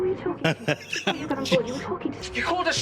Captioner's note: surprised laugh